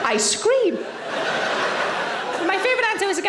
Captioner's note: audience laughing